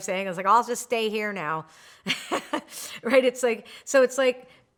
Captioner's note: laughs